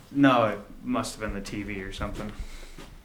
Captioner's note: none